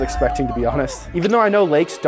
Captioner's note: man cheering